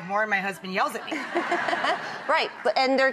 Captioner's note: audience laughing